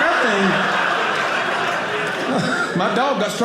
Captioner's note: audience laughing